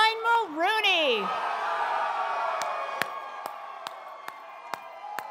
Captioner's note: audience cheering